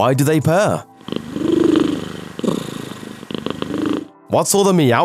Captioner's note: cat purring